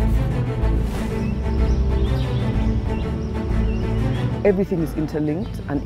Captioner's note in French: dramatic music; birds chirping